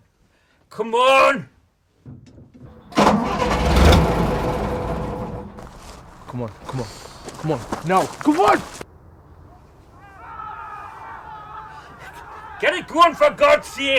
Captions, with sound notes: Come on! (Engine splutters) Come on. Now, come on! (Yelling) Get it going for God’s sake!